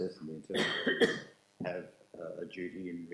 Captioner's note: coughing